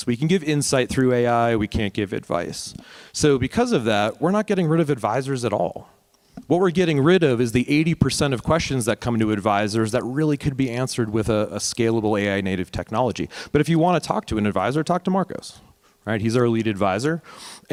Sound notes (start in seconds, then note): none